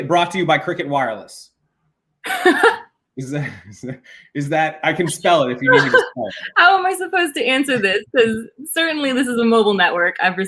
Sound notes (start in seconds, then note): 2.3 laughs